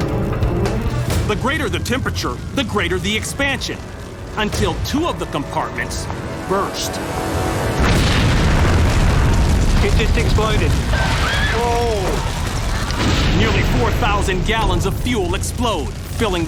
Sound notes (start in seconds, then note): 7.4 explosions; 10.8 screams